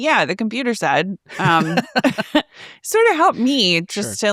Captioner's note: chuckles; laughs